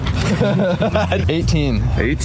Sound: laughing

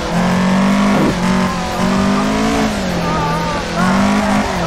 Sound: panicking noises

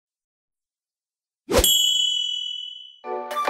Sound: ringing; whooshing

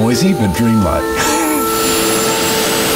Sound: laugh

